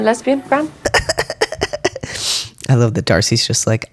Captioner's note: laughter